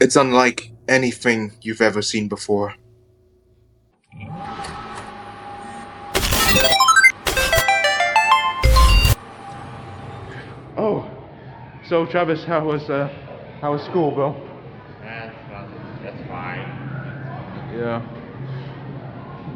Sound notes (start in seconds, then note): 4.2 system starting up; 6.1 glitching